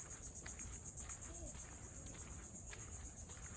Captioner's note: cicadas chirping